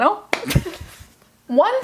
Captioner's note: laughing